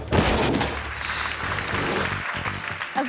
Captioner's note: audience clapping; image whooshes